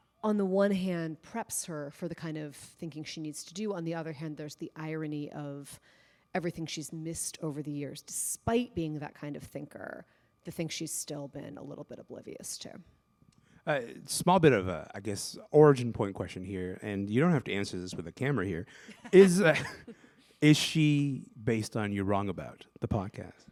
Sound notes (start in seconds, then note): 18.8 laughter